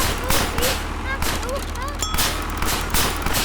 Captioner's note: machine clicking and pumping; Malice crying out; machine dings